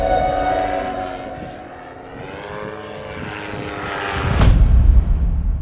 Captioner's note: distant airplane engine